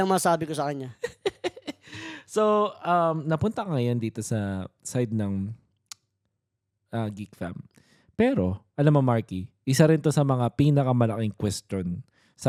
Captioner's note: laughs